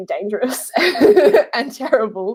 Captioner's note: laughing